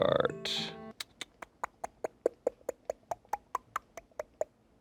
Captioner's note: tongue ticks